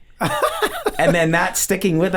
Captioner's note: Charlie laughing